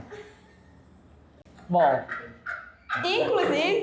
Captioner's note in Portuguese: risos